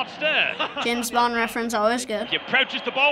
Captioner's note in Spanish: risa